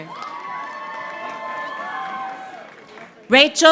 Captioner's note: audience applauding